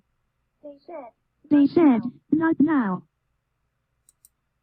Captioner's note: computer voice